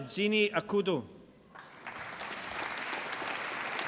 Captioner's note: applause